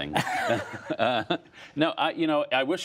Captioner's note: laughter